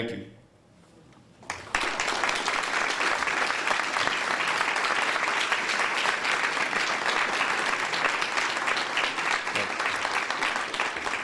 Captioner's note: applause